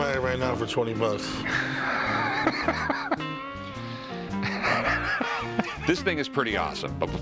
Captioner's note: laughs